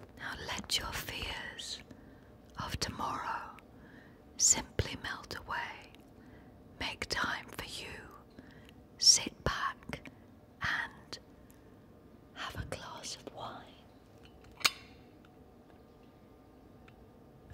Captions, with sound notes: Now let your fears of tomorrow simply melt away. Make time for you. Sit back... And... Have a glass of wine. (clink)